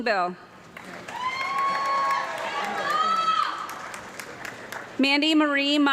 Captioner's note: audience clapping and loud cheering